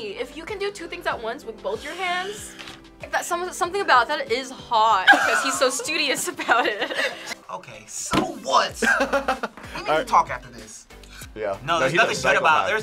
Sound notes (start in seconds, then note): 8.8 laughs